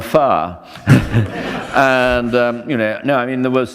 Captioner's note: laughter